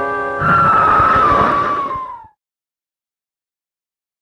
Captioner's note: chilling scream